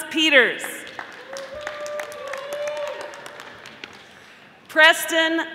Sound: audience applauding

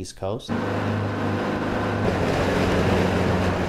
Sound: boat engine

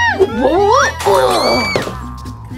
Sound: Gekko Screams; glass Breaks

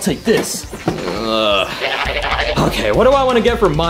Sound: Mario groaning

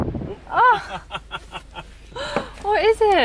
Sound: laughs

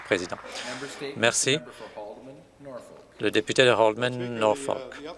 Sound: some Applause

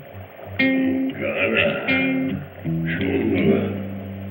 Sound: grunting gibberish

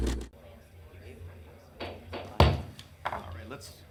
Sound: hammer thudding

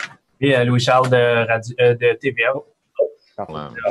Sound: speaking in French

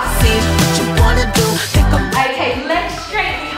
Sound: alarm beeping

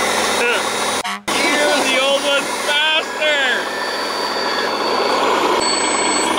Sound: car horn honks; engine runs

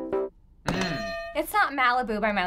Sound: pop ballad; hitting bell

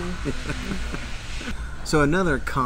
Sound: laughs

